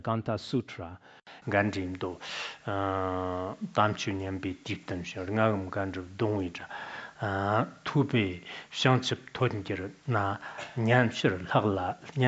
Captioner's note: citing scripture in Tibetan